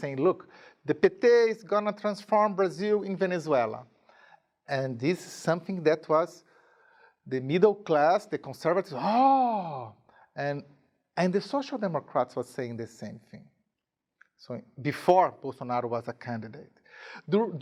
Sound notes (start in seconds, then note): 8.9 groaning